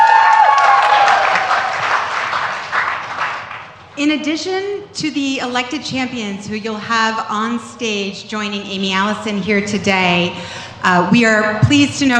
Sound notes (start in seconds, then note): 0.0 cheers and applause